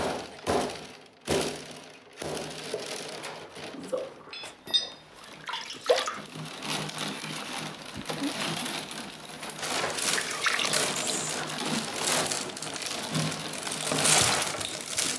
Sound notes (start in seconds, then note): 5.2 water splashes; 9.9 quietly; 11.2 willows crackle